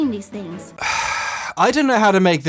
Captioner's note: sighs